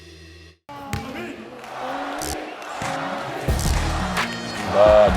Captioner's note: crowd cheering; Bobby and crowd cheering